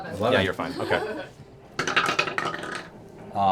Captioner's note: laughter